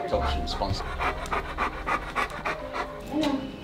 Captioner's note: Oso panting